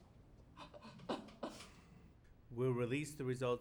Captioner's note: sobs